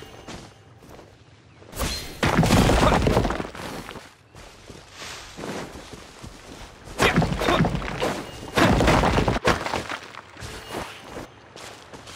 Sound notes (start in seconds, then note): none